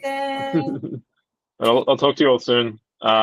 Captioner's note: laughing